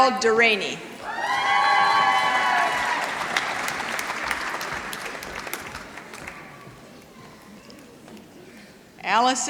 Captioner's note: applause